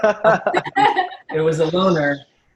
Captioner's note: laughs